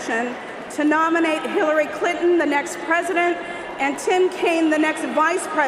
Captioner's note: cheers and applause